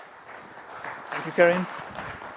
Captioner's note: applause